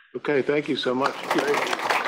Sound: applause

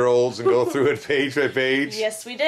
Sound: laughs

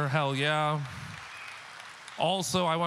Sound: audience clapping

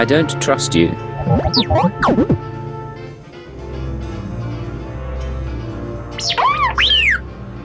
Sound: beeps

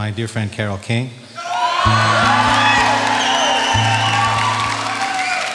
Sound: audience cheers

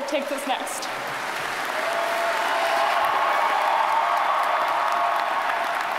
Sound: audience cheers and applauds

